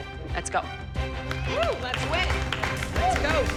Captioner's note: cheering and applause